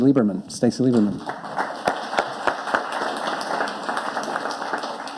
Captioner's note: audience applauding